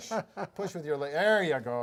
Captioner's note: laughing